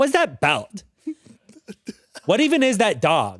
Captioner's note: laughs